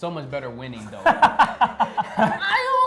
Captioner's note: laughter